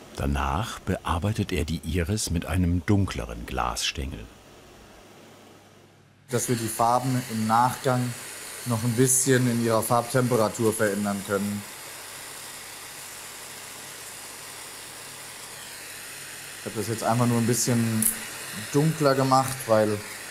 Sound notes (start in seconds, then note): 13.0 hissing